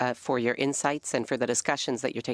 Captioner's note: speaking French